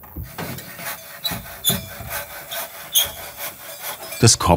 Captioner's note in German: Quietschendes Sägegeräusch